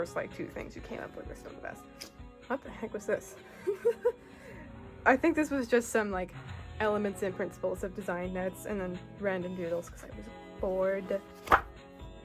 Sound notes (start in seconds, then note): 3.6 laughs